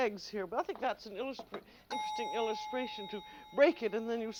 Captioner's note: timer dings